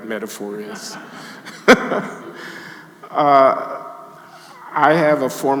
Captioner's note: audience laughing; Glenn laughing